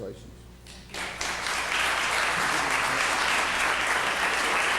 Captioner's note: applauding